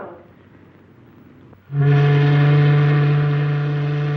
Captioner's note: ship's horn